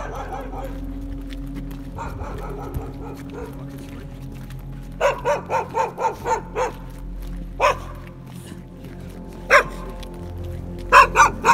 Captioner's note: dogs barking